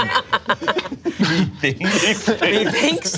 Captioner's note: group laughs